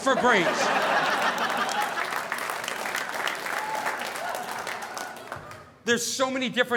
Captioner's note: audience laughing; audience applauding